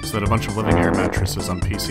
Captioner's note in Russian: пердёж